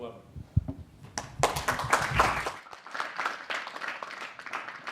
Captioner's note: applause